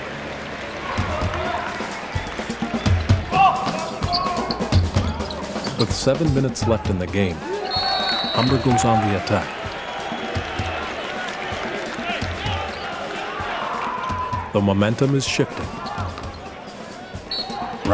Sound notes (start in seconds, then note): 1.0 game hubbub; 9.9 mixed yelling